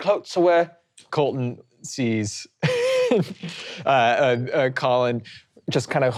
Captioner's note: laughing